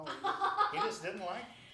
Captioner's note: laughing